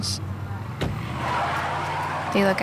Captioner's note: car speeding off